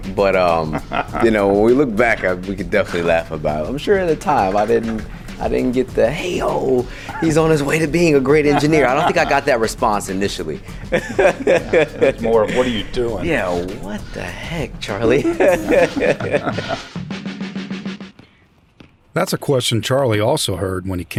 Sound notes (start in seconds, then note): 11.7 laughs; 15.1 laughter